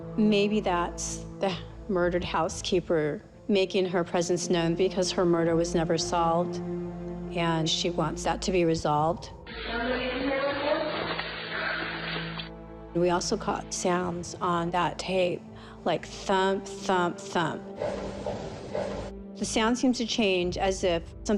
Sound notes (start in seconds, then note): 18.0 thumping